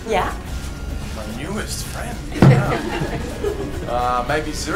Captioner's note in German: Publikum lacht